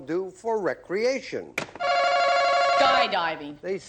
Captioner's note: ringing